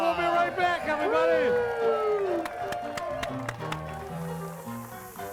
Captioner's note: audience applauds; upbeat music